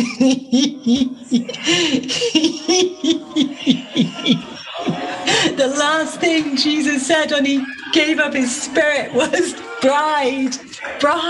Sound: laughing

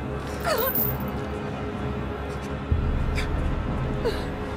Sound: sobbing

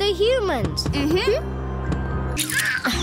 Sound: thudding

